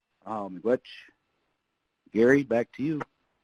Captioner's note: speaking in foreign language